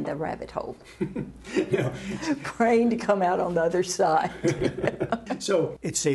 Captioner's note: laughter